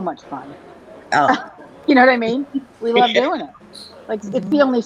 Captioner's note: laughter